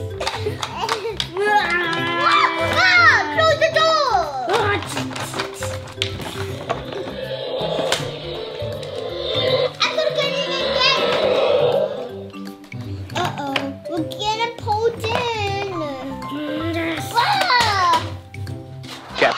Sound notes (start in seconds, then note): 1.4 children screaming; 6.8 dinosaur roaring; 17.1 screaming; 17.9 toys crash